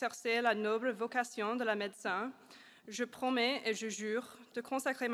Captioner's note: amharic; swahili; tamil